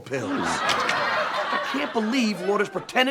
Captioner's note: audience laughs